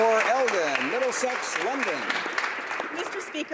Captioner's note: applause